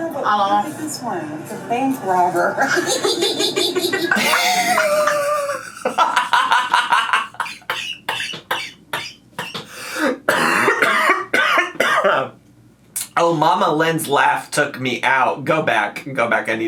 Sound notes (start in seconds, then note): 4.0 laughs; 7.0 coughing